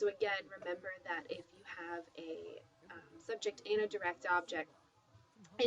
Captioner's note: spanish